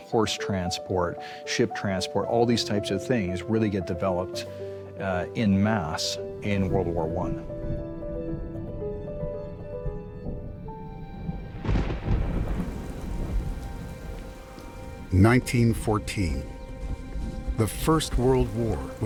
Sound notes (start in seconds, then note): 8.0 bright music; 11.9 rain patters; 11.9 thunder cracks